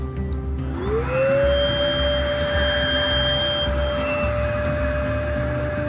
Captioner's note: loud sound from the compressor - whooooa